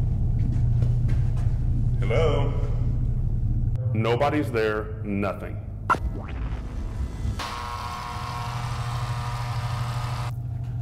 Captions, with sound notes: Hello? Nobody's there, nothing. (buzzing)